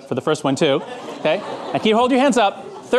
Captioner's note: audience laughing